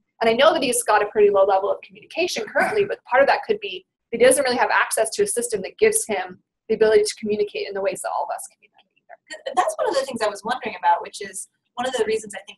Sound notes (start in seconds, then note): 9.5 voiceover